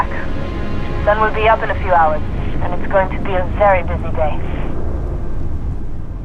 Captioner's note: radio